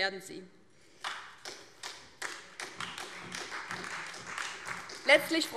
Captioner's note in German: Beifall DIE LINKE und vereinzelt SPD